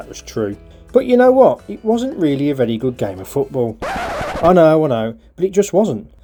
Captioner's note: record scratch